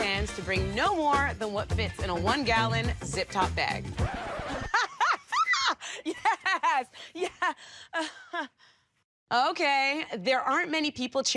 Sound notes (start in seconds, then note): 3.7 scratching; 4.0 laughter